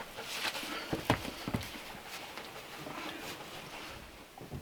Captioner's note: none